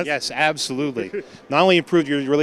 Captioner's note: chuckles